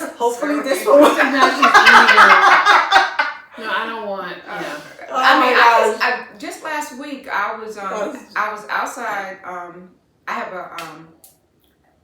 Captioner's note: laughter